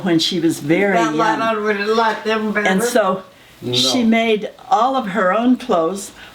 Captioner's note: off screen chatter